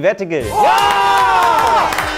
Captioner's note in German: Jubel, Applaus